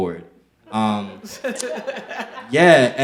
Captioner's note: audience laughing